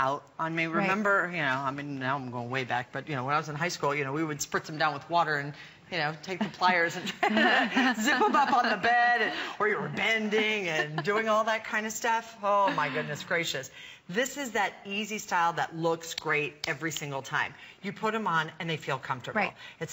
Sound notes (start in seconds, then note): 12.6 laughter